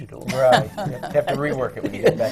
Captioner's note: laughter